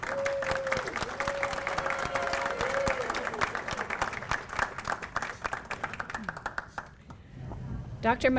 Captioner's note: applause